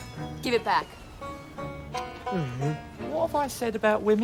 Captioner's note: groans